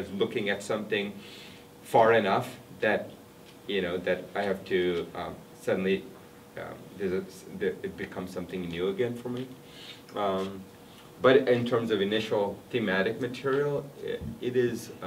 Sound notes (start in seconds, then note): none